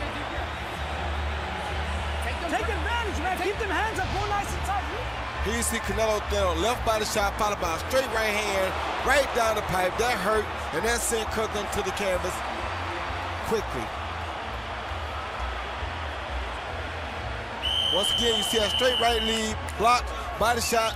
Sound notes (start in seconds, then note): 17.6 whistle